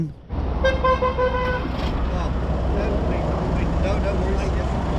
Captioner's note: horn honking